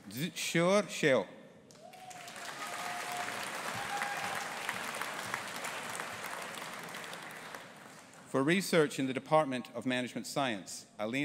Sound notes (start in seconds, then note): 1.8 audience applauding and cheering